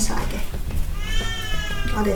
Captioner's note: oh no.. baby's crying